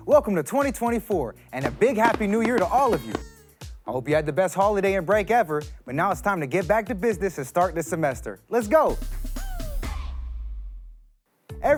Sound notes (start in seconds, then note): 2.0 party horn honking; 8.5 energetic music